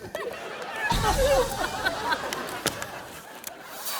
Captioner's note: everyone laughs; audience laughs